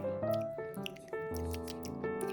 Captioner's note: munch munch